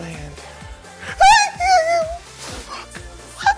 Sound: screaming

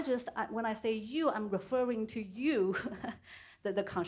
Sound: chuckles

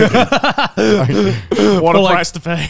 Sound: all laughing

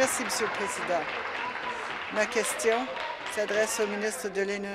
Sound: applause

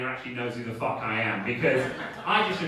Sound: audience laughing

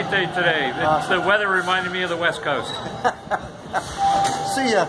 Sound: laughing

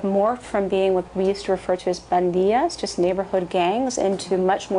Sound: spanish

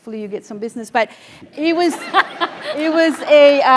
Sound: laugh

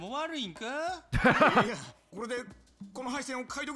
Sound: laughs

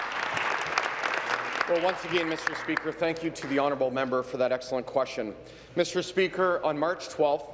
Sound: applause

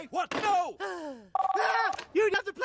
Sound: sigh

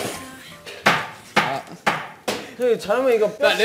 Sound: bang bang

